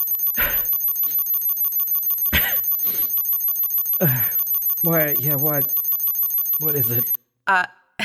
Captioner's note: omnitool alarm; coughing